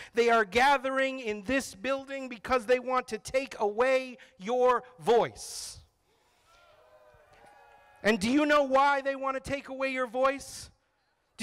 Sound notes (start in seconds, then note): 6.6 crowd applauding